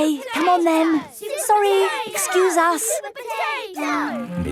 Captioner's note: children chanting